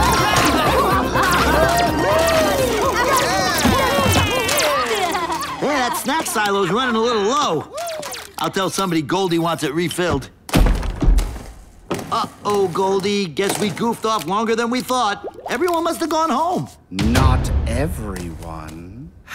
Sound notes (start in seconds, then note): 0.0 cheering